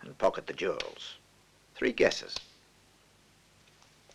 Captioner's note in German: Rascheln